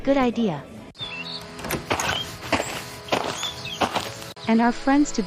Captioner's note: mockingbird Sound